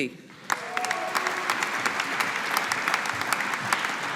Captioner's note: audience applauding